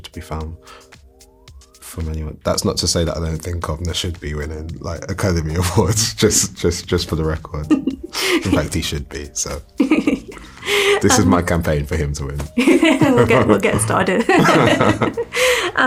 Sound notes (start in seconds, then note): 7.7 laughs; 9.8 laughs; 12.7 laughs; 14.1 laughter